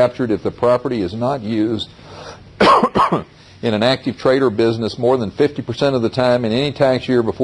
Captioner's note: coughing